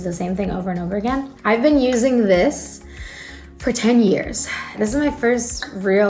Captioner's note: inhales